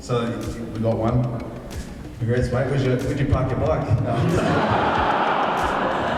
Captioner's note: audience laughs